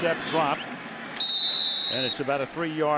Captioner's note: whistles